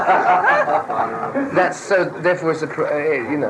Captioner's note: laughter in the background